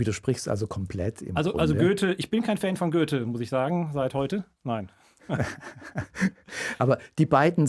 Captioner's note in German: gelächter